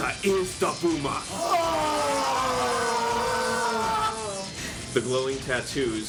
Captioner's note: screams of amazement